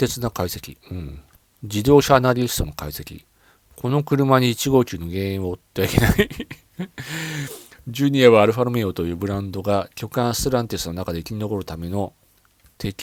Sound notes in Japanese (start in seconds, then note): 5.9 笑い; 6.9 鼻息